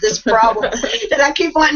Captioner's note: chuckles